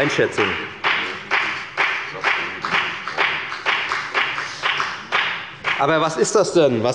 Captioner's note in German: Beifall bei der FDP